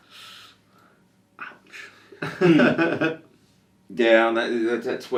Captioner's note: chuckles